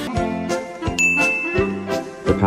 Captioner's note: ding sound effect